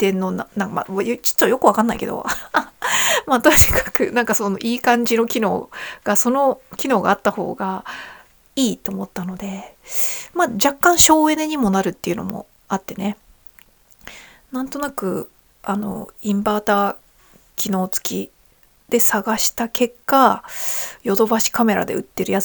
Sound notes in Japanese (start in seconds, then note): 2.2 笑い